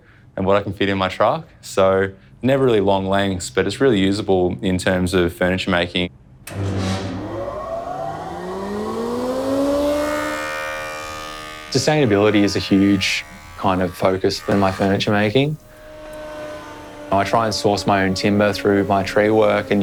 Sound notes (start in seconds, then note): 6.2 machinery whirrs